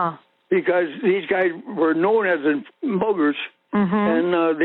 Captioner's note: over the Phone